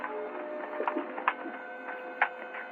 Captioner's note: horse clopping